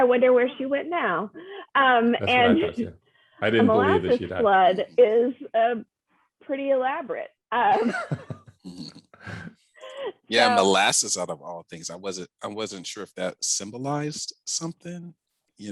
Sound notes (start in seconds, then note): 7.7 laughs